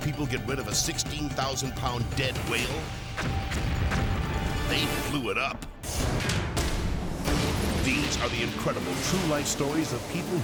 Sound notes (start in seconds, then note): 3.2 whale explodes